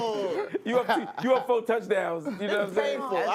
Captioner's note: laughter